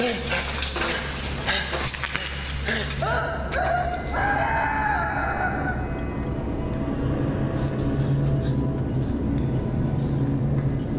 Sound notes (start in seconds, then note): 3.0 screams; 8.1 ominous music